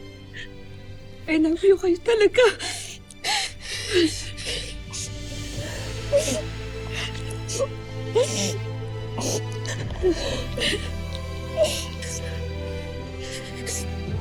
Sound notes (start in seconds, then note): 1.5 sobs; 3.0 dramatic music playing; 3.0 sobbing